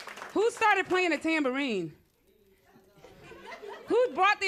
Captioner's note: laughter